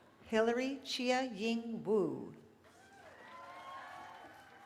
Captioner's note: cheering